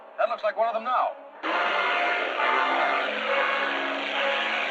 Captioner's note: boat engine revving